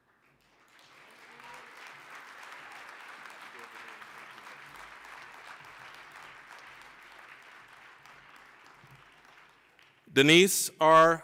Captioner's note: applause